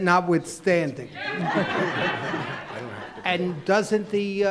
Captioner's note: laughing